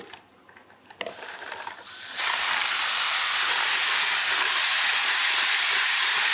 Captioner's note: cement mixer buzzing continues